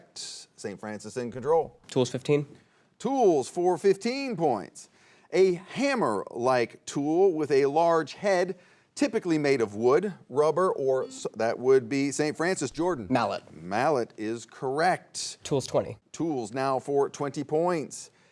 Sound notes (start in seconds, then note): 11.1 buzzer beeps